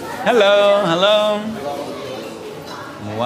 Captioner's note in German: Stimmengewirr